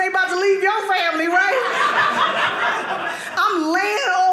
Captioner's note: audience laughing